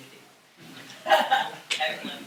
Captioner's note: laughter